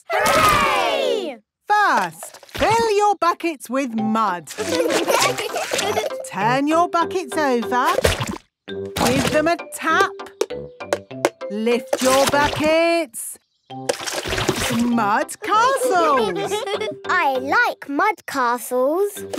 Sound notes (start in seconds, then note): 4.6 laughing; 11.8 taping; 15.8 all giggling